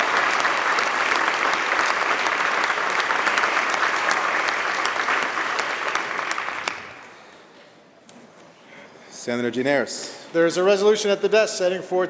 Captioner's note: applause